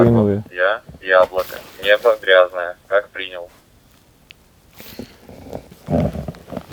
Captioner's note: on the radio